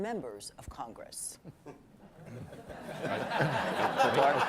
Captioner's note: laughter